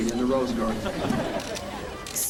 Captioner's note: laughter